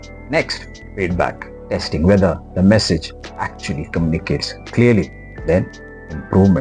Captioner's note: feedback